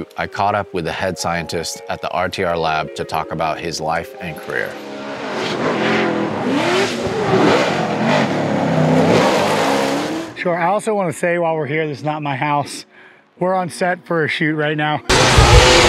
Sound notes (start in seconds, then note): 4.8 car engine revving; 4.8 tires screeching